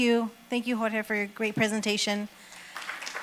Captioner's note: applause